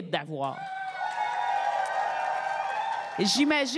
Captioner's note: cris et applaudissements